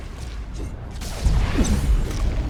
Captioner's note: explosion